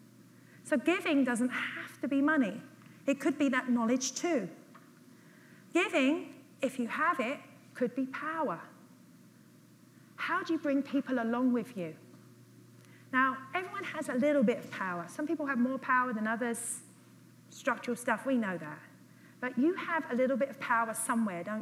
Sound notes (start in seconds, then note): none